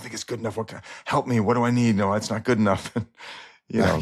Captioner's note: chuckles